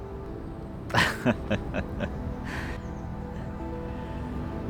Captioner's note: laughs